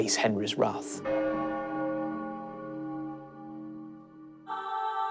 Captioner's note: bell tolls